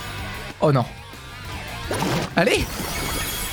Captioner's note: none